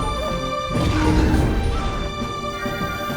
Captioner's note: roaring